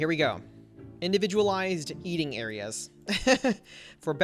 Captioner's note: laughs